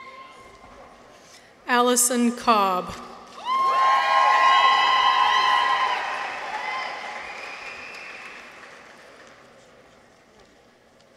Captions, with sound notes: Allison Cobb. -(people cheer) -(audience applauds)